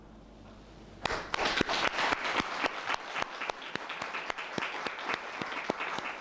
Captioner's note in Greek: χειροκρότημα